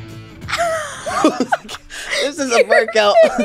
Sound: laughter

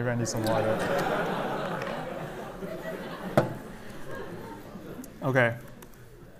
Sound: laughter

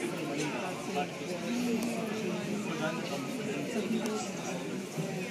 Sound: people talking, airport noises

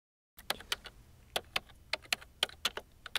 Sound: typing on a keyboard

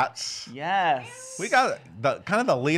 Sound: meowing

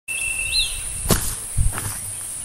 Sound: footsteps

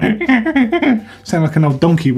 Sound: squeaking

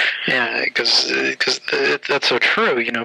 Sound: laughter

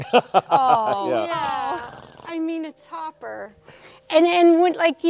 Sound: David laughs

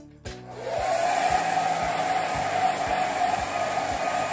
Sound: hairdryer whirs

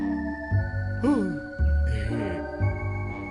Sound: gasps

